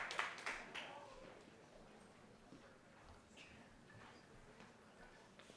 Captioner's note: cheering